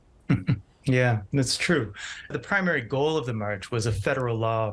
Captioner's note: chuckles